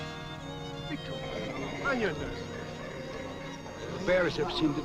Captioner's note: group chattering